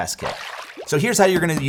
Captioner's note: water splashes